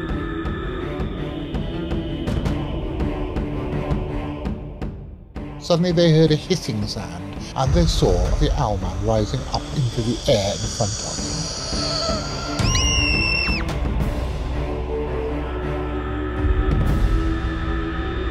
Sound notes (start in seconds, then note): 11.2 girl screams